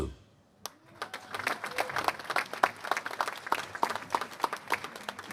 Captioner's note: applause